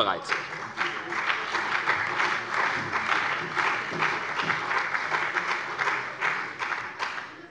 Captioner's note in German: Beifall bei der CDU und dem BÜNDNIS 90/DIE GRÜNEN